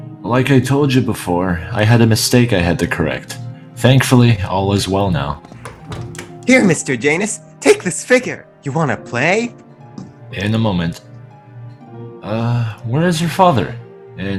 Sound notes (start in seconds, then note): 5.5 door closes